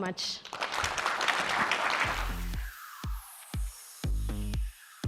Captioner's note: applause